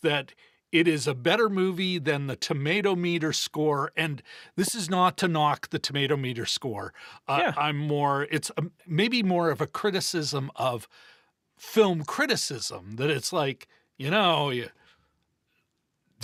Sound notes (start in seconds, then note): none